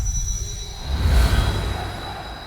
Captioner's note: swooshes; chants of "TSM! TSM! TSM!"